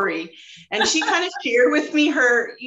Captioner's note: laughs